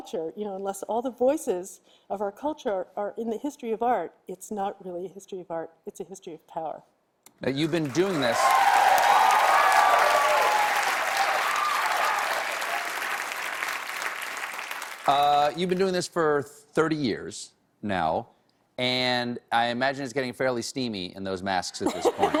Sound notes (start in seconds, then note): 7.5 cheers and applause